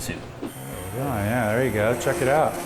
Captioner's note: hand blender whirs